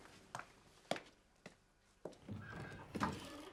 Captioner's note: door creaking